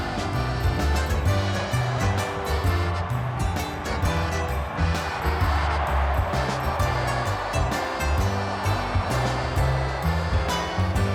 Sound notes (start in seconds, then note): 2.9 crowd cheers; 7.4 wistful music continues